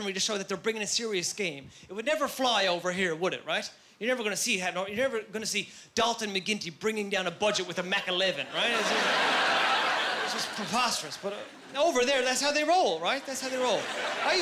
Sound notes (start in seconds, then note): 8.4 laughing